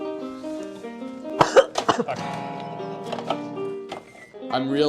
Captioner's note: coughing